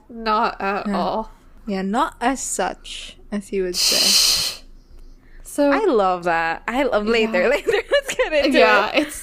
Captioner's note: laughs